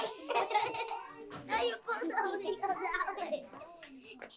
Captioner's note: children laughing